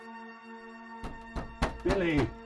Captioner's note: knocking on door